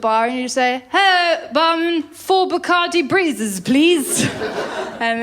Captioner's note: drunkenly; laughter